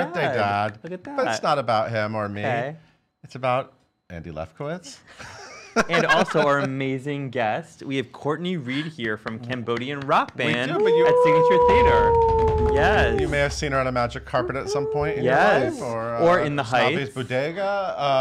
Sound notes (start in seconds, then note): 5.7 laughing; 12.4 cheering